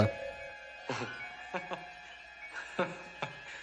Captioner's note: both chuckling